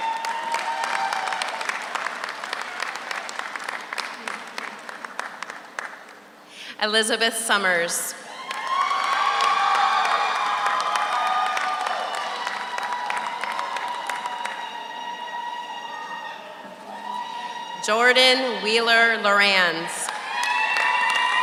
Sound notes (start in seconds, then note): 0.0 audience cheers; 0.0 audience applauds; 8.3 audience applauds; 8.8 audience cheers; 20.0 audience applauds; 20.0 audience cheers